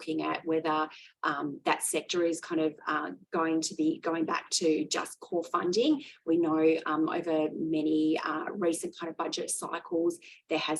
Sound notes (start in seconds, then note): none